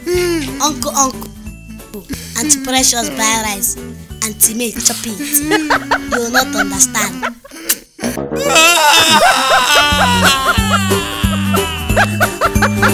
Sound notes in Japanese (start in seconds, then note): 8.4 マークの泣き声